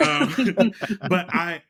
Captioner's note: laughing